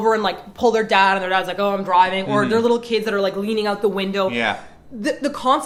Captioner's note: indifferent voice